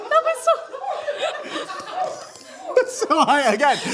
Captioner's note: laughing